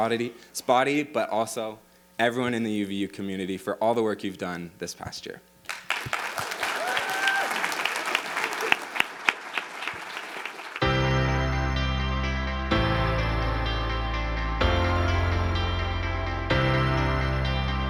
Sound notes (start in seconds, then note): 5.6 audience applauding; 10.8 inspirational music